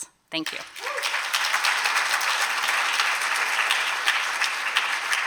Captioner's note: applause